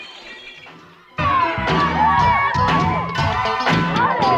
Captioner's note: glass crashing; people talking; upbeat synthesizer music